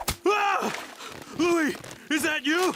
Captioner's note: screams